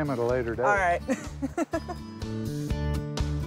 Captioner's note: laughs